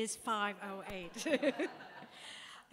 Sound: laughter

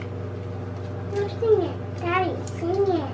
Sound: mumbles

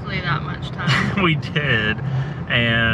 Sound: chuckles

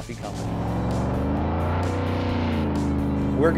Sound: jetboat sounds

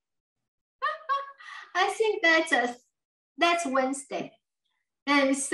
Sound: laughs

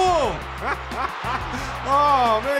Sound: laughs

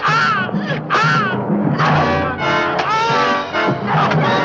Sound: pounding

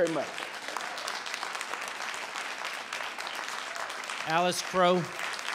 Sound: audience applauding

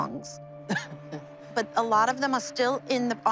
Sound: chuckles

